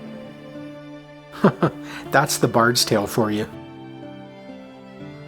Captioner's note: chuckles